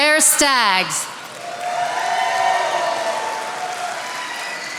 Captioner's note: attendees applauding